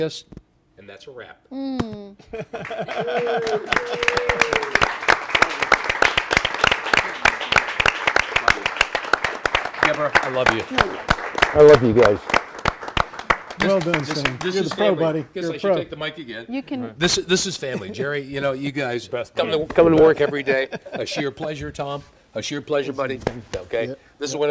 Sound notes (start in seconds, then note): 9.0 applause